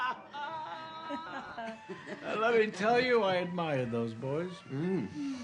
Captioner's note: laughs